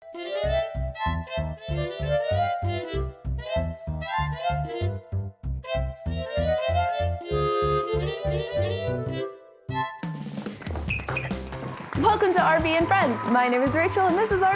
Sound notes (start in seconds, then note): 3.2 upbeat music; 10.1 footsteps thumping